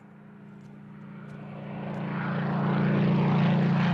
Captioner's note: plane engine roars